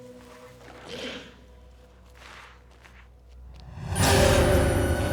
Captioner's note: footsteps shuffling; intense music